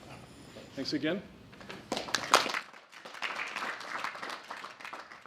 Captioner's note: applause